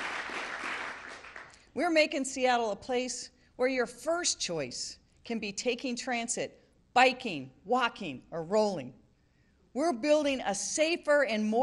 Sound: applause

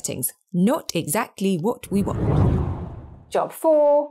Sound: wind blows

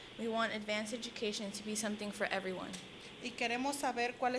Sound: Spanish language

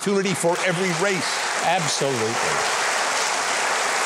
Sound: audience applauding

